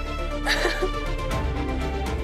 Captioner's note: crying